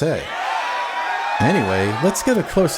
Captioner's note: crowd Cheers!